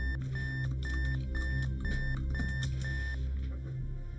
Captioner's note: keys clacking